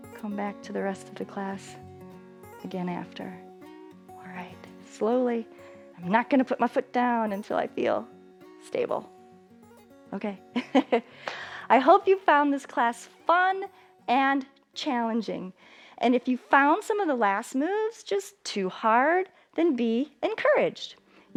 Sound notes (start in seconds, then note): 10.6 laughing